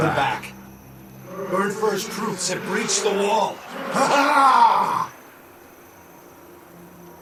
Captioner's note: ghostly howl of rage